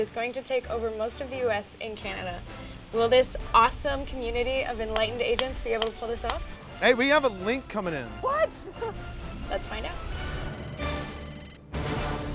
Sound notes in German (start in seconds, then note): 8.3 Lachen